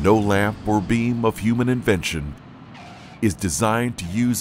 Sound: plane wheels screeching

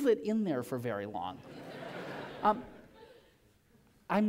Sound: laughter

